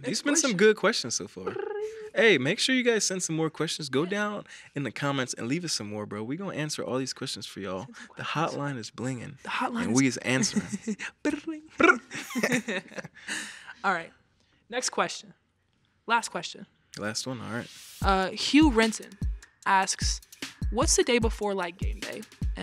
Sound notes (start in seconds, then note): 11.7 chuckles; 11.8 all chuckling